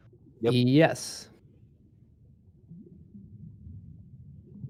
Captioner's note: game sounds